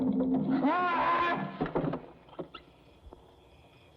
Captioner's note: screams